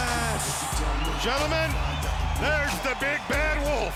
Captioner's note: applause